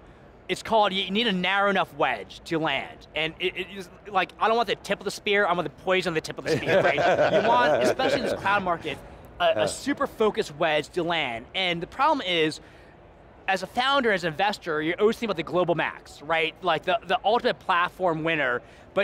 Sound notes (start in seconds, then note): 6.4 laugh